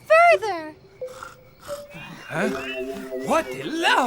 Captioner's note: witch snoring